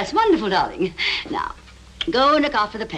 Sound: sigh

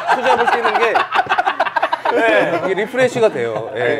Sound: laughing

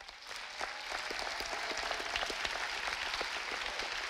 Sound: audience applauding

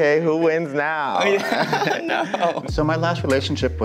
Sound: laughs

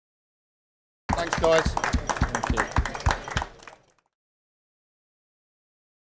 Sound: applause

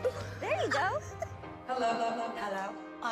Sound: echoes

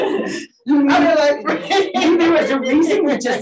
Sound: laughs

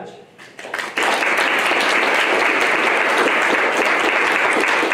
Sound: applause

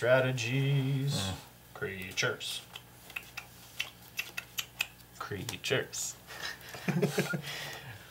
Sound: tongue clicking noises

